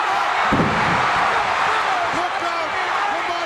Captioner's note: audience cheering